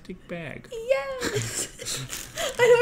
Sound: laugh

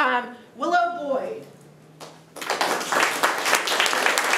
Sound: room applauds

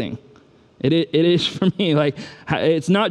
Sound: chuckles

